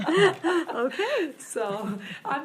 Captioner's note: laughs